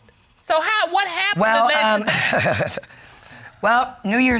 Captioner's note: chuckles